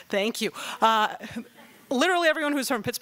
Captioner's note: laughing